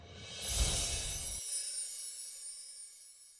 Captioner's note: air whooshes